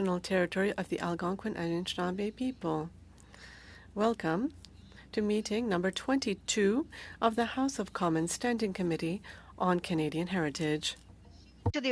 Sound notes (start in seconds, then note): 2.8 speaking French